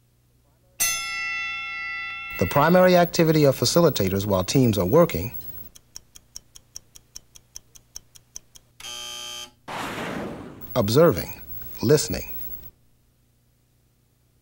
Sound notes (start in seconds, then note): 0.8 bell rings; 8.8 buzzer